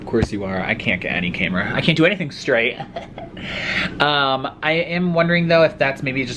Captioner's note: gross laugh